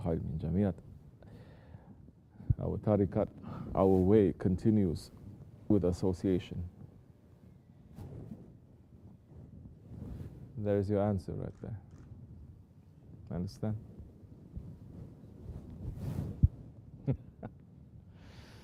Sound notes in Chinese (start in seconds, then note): 14.7 笑着说。